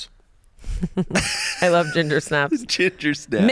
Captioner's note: laughs